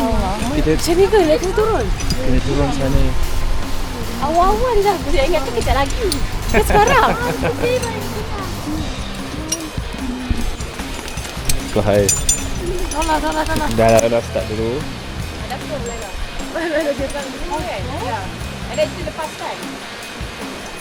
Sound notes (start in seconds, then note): 7.9 laugh